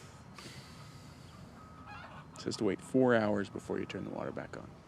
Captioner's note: sighs